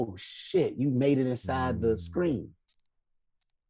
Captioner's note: none